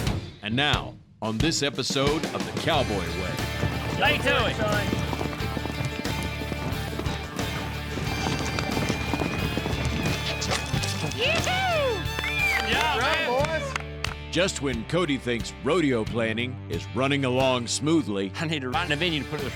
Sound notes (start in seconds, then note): 10.6 clapping